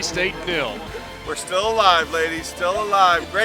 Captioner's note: voiceover